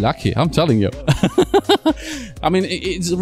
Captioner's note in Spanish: risas